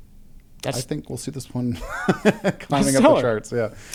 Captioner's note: laughs